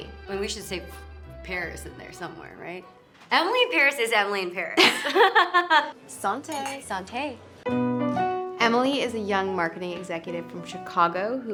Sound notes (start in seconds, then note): 4.8 laughter; 6.4 foreign language; 8.3 soft music